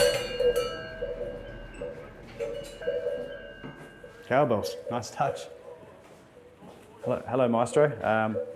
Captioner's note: sound of bells